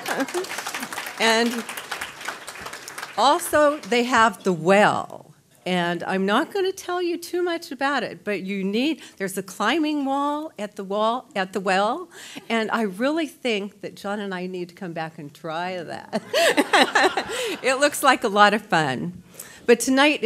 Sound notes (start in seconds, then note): 0.0 laughter